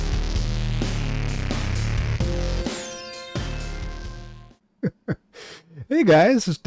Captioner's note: laughter